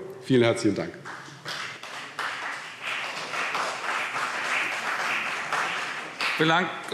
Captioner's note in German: Beifall CDU und BÜNDNIS 90/DIE GRÜNEN